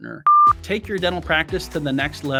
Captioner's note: test pattern beeps